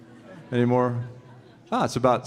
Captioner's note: audience members snickering